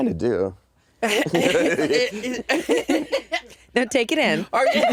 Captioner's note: all laughing